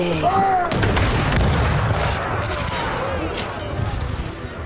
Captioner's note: gunfire